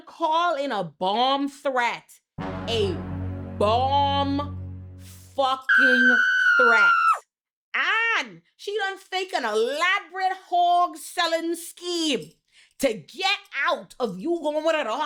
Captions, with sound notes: call in a bomb threat. A bomb fucking threat. (woman screaming) And she done fake an elaborate hog selling scheme to get out of you going with her